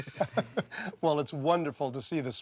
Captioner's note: all laughing